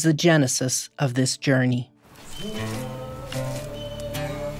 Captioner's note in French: gazouillis d'oiseaux